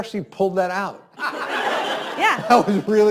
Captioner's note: students laugh